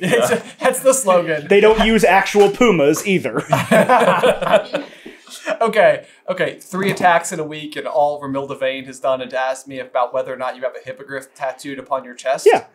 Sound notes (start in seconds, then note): 2.9 laughter